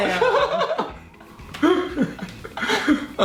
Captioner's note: laughing